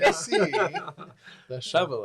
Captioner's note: laughs